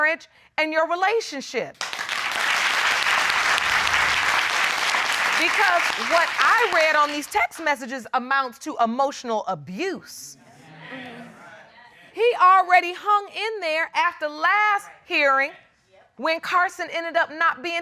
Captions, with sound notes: negatively affect your marriage and your relationship. Because what I read on these text messages amounts to emotional abuse. [audience murmuring in agreement] He already hung in there after last hearing